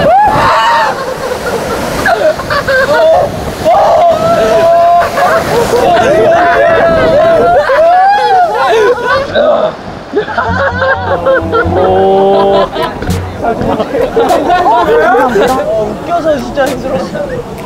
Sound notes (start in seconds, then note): 0.0 screaming; 5.9 screaming; 7.2 sobbing